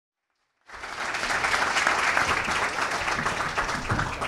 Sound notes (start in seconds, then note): 0.2 applause